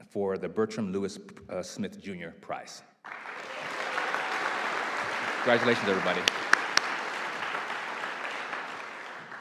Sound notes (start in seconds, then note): 3.0 audience applauding